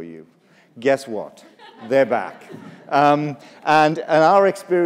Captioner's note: laughter